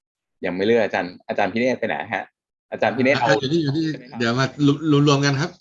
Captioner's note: members are talking